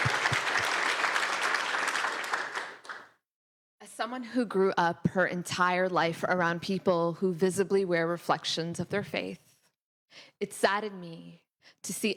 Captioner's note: applause